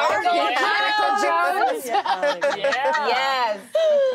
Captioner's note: laughter